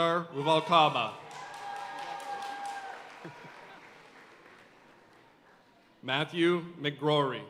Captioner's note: audience cheering and applauding